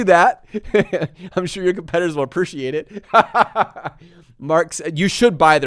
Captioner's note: laughs